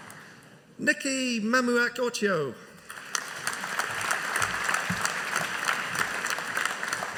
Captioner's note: audience applauding